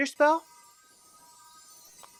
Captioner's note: magic Sounds